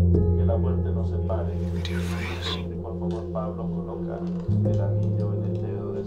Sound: solemn music continues; people speaking in foreign language

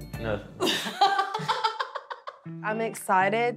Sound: laughs

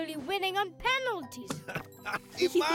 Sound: laughing

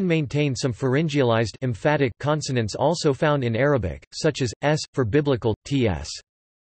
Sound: emphatic

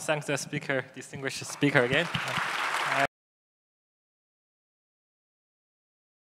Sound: audience applauding

